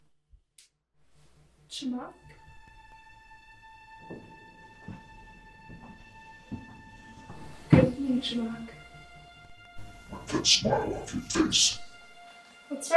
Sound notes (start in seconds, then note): 3.3 suspenseful music; 5.8 footsteps approach